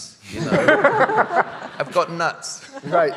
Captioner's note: audience laughing